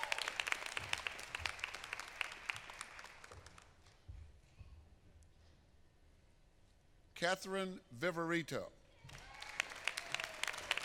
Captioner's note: applause